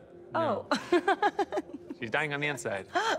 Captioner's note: laughs; chuckles